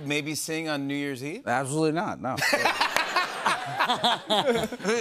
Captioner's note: laughter